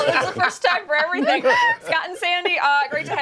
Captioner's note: laughter